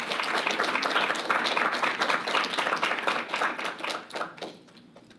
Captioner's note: audience applauding